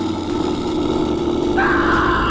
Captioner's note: growl; screams